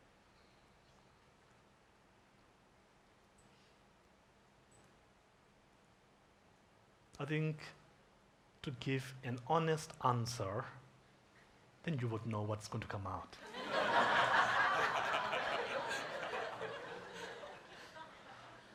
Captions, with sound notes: - I think to give an honest answer, then you would know what's going to come out. (audience laughs)